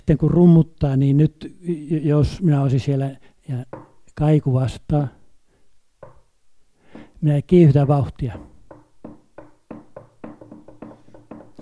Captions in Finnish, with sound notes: ja kun rummuttaa, niin nyt jos olisin siellä ja kaiku vastaa... (Koputuksia.) Minä kiihdytän vauhtia. (Koputus kiihtyy.)